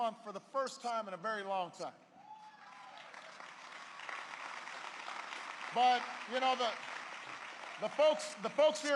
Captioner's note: applause